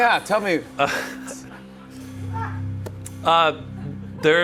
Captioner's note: laughs